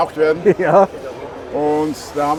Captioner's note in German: lacht